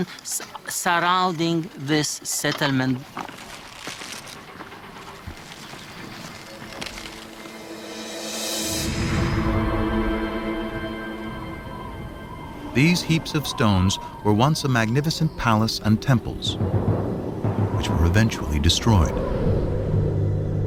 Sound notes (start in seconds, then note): 11.0 wind whistling